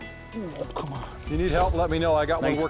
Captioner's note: voiceover